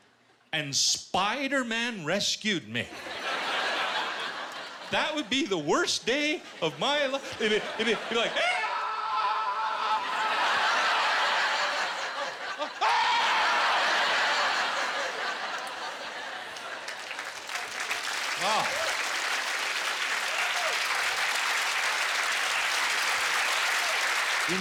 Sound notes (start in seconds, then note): 8.4 screaming; 12.8 screaming; 13.5 laughter; 16.4 applause; 19.5 cheers and applause